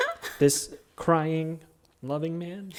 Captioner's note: chuckles